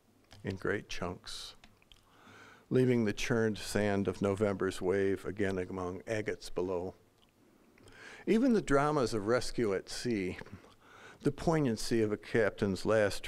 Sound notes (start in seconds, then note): none